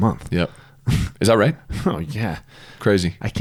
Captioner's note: laughs